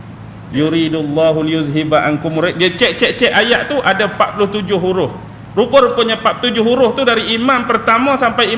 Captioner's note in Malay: ketawa